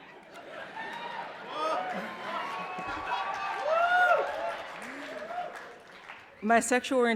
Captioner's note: laughter and applause